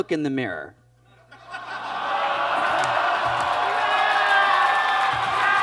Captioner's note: audience laughs and claps